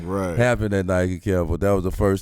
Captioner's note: laughs